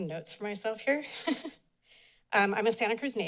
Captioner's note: chuckles